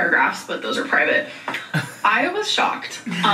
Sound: laughs

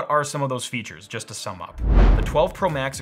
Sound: whooshing

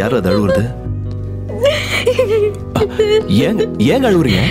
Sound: Riya crying; crying

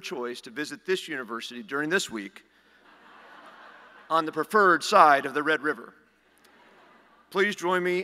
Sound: laughter; laughter

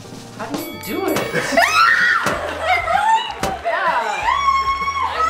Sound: yelling

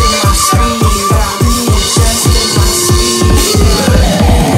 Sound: vocal slows and distorts

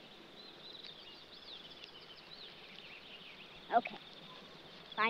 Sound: birds chirping

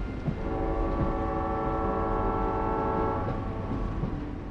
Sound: train whistle

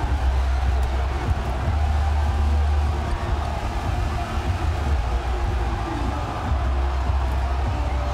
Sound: cheering

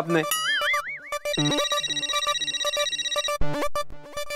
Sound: phone rings

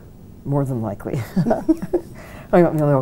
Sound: both chuckling

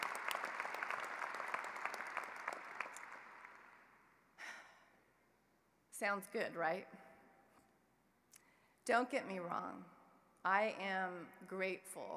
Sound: applause

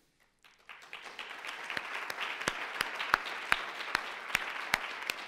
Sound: audience applauds

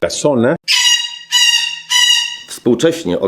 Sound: parrot sounds

